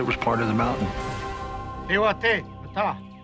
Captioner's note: non-english language